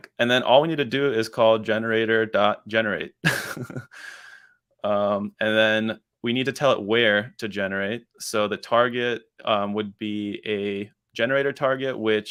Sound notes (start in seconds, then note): 3.2 laughs